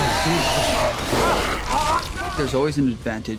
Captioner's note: growling; grunting; roars